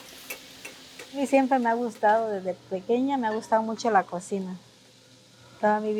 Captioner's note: speaking Spanish